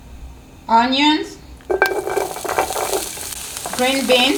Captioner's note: pan sizzling